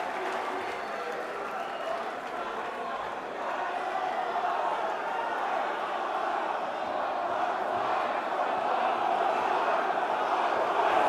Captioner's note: crowd cheering